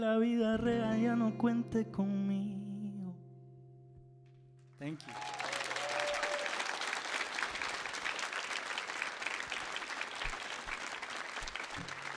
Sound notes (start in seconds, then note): 0.1 sings in Spanish; 4.9 audience applauds and cheers